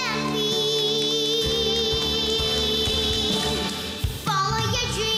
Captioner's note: applause